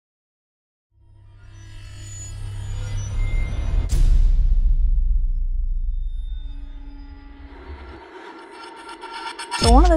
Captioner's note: sound Effects